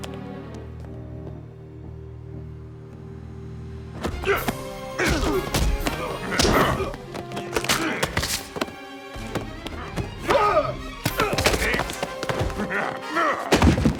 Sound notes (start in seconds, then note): 4.8 dramatic music; 5.9 grunting